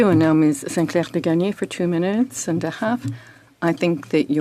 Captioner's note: speaking French